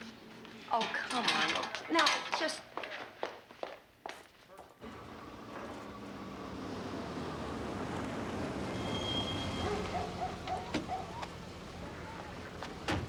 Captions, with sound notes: - Oh come on. Now just... (dog barking)